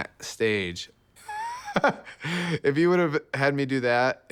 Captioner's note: laugh